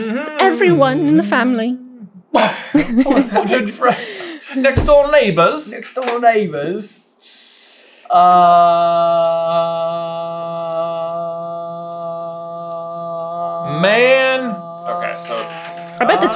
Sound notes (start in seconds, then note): 2.4 guffaws; 4.6 accented